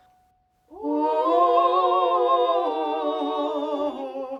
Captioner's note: all vocalizing